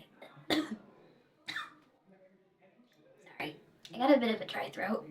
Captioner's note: Sarah coughs